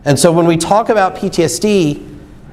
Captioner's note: none